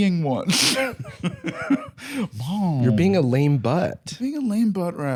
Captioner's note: laughs